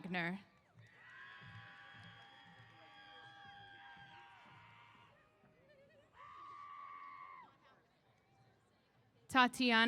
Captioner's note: cheers